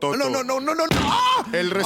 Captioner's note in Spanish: smack